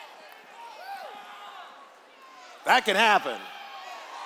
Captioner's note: cheers